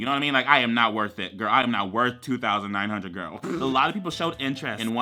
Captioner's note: blows raspberry